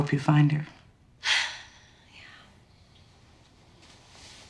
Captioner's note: sighs